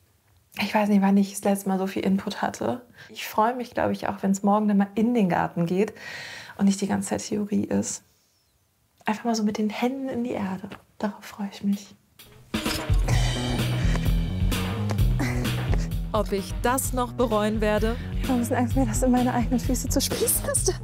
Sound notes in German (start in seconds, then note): 12.6 schnelle Musik; 15.1 stöhnt